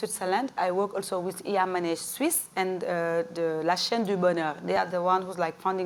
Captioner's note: french